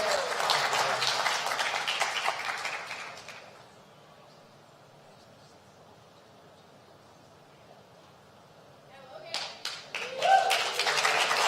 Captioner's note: applause